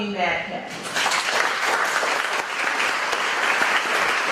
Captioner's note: audience applauding